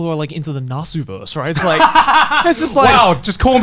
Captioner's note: Garnt laughing